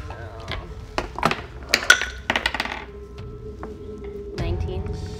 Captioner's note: foreboding music continues; dice clattering